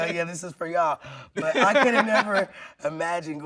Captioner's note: laughing